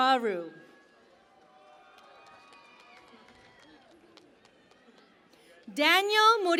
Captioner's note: cheering and Applause